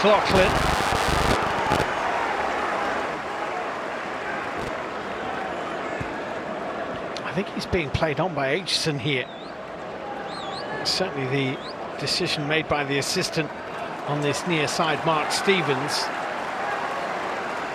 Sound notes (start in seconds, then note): 4.2 applause; 4.6 cheers and applause